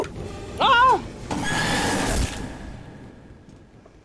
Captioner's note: jumpscare noises